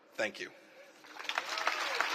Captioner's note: applause